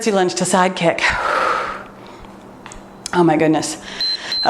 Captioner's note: exhales deeply